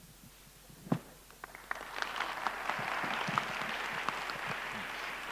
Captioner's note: audience applauding